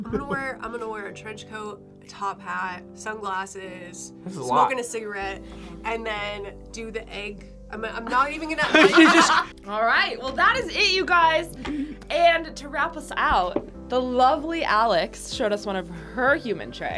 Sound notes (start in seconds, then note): 8.6 laughs